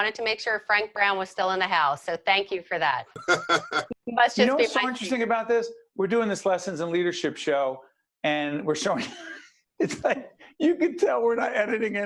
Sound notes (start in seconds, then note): 3.1 laughing; 9.8 laughing